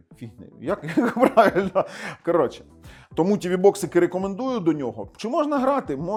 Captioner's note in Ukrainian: сміх